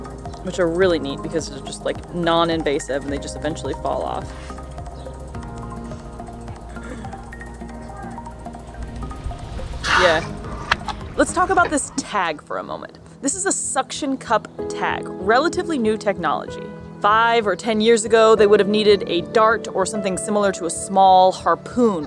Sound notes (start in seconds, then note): 4.3 background music; 9.6 whale expelling air from blowhole